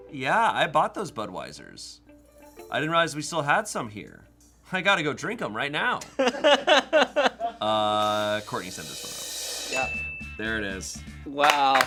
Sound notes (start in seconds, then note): 6.0 laughs